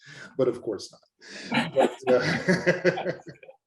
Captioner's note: both laugh